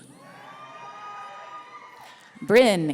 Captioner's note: audience cheering